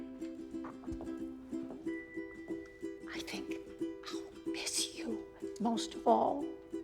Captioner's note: whispers